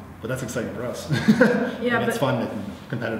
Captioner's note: laughs